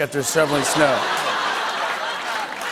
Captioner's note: laughter and applause